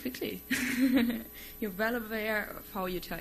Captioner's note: laughs